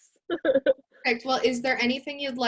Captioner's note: laughs